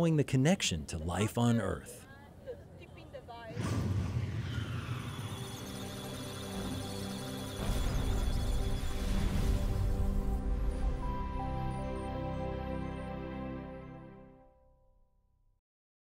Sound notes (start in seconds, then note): 4.4 electronic Sounds of Data; 4.8 musical Tones